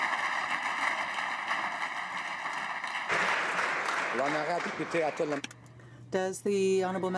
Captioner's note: applause